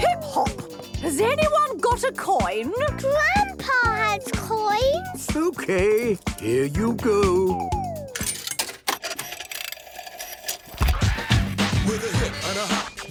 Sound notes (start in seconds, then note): 8.1 clicks, whirring; 10.8 hip hop music plays